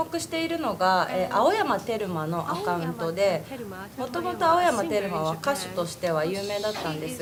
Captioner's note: japanese